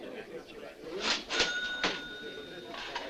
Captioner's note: register rings